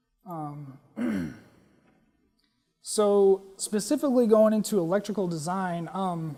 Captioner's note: cough